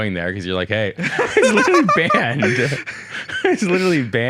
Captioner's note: both laugh